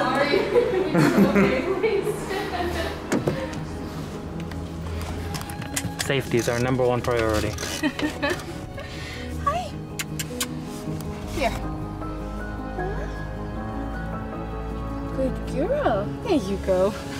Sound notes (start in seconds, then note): 0.3 laughter; 7.8 laughter; 9.8 kissing sounds